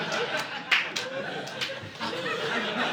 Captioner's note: audience laughing